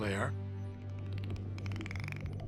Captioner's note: dolphins clicking